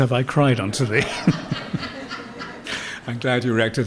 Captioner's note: laughter